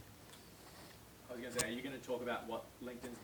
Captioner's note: voiceover